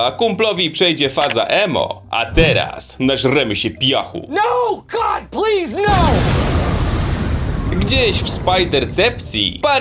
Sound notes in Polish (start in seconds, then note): 5.8 boom!